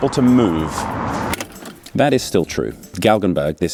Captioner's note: click